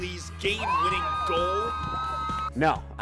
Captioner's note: team screaming